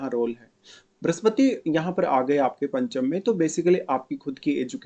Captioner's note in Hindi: नाक से की जाने वाली आवाज़